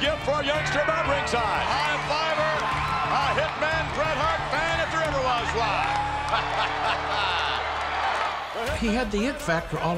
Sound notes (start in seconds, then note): 5.4 laughs